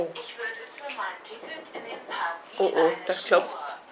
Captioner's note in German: klopf klopf klopf